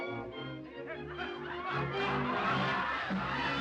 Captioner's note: audience laughs